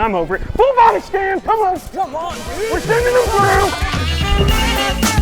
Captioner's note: none